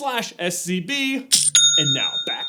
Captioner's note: cha-ching!